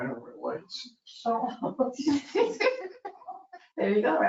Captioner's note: people chuckle